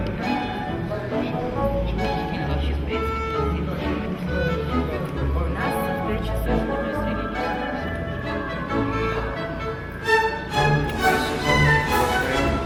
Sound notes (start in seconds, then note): 2.0 people chattering in the Russian language